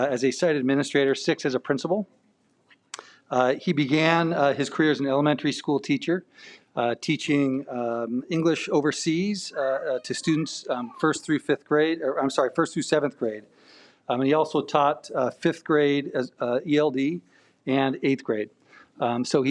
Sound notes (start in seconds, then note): none